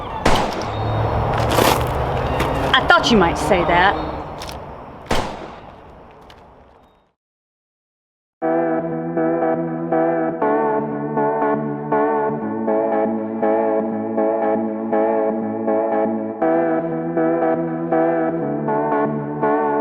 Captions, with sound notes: (gun fires) I thought you might say that. (gun fires) (soft music)